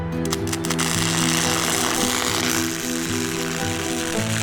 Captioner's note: sparking noise